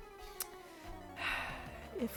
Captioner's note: sigh